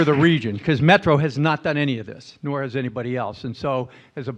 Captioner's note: applause